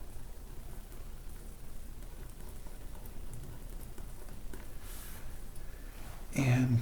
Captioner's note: writing on Paper